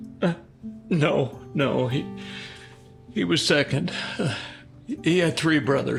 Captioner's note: stutters